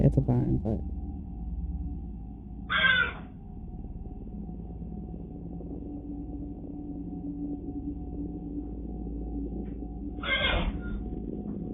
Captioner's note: horses still whinnying a bunch